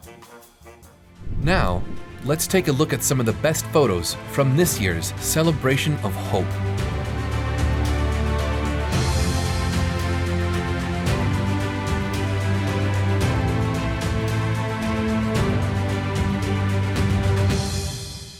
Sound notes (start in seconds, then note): 1.2 graphics whooshing